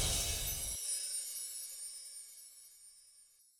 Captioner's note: soft chimes